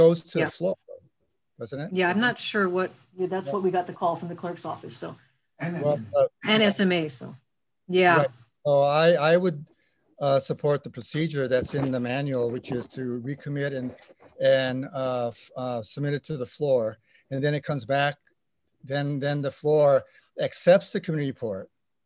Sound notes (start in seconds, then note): 6.0 foreign language